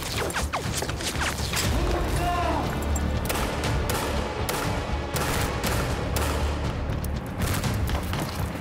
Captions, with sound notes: Move 'em down! (gun banging) (dramatic music)